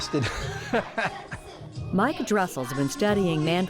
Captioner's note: laughs